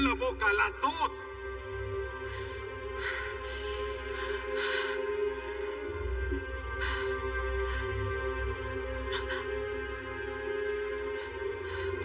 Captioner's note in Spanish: Solloza